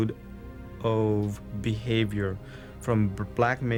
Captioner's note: voiceover